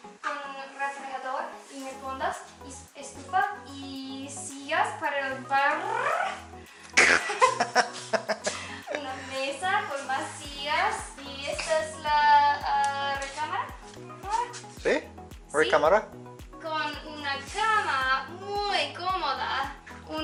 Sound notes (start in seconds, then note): 7.0 laughter